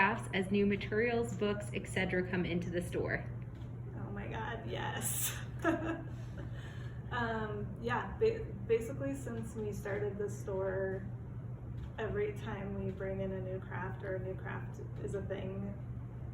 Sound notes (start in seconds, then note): 5.5 laughs